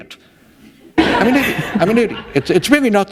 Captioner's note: laughter